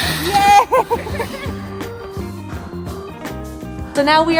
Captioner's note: laughing